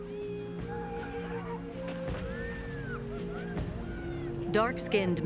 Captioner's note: yelling and laughing